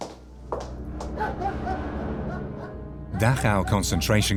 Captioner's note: dog barks